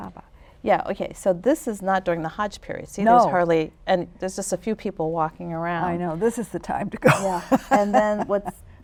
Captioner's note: laughs